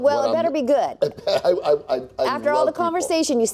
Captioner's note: laughs